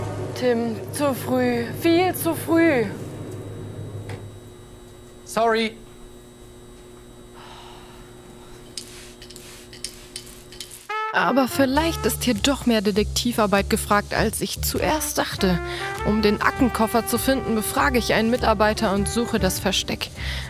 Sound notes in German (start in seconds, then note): 7.1 Genervter Laut; 8.7 Sprühgeräusche